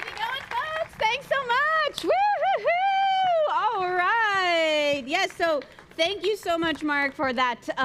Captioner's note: applause